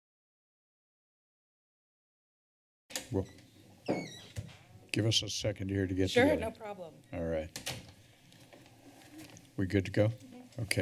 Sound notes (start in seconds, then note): 0.7 silence; 3.8 door opening; 8.3 rustling sound